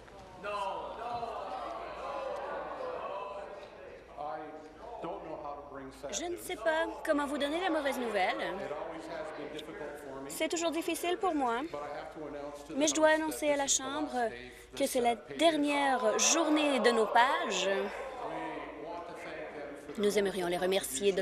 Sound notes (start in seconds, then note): 6.3 chorus of "No"